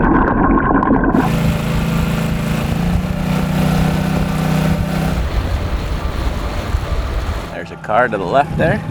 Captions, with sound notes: (oxygen bubbling in water) (motor boat whirring) There's a car to the left there.